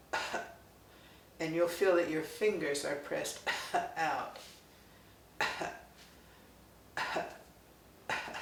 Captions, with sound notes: and you'll feel that your fingers are pressed out. (coughs)